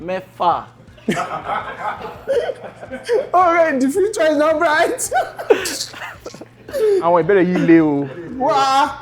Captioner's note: everyone laughs